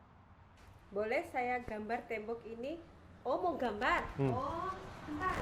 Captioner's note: person speaks in a foreign language